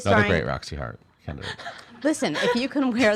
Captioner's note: laughing